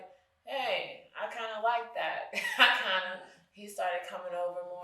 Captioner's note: chuckles